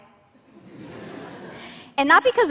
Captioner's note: laughter